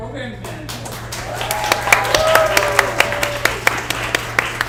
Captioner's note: audience applauds